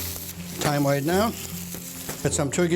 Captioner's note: sizzling